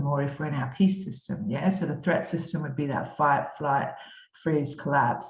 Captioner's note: none